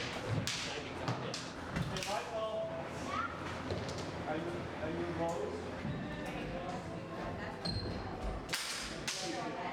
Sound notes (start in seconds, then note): 0.9 room of people talking